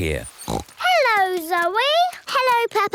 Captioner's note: snorts